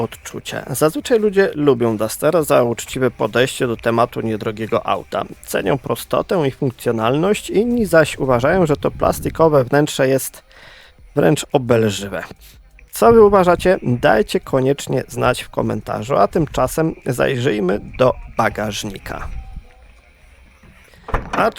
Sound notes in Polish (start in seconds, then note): 12.1 parsknięcie